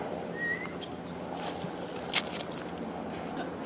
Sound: whistle

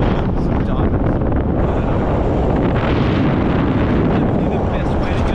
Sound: wind noise

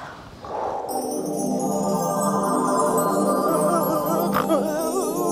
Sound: magic sound

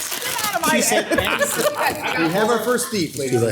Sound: council members laugh

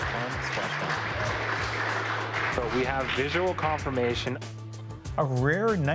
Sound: applause

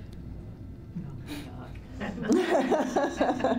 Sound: laughter

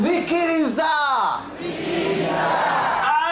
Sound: audience repeats in local language

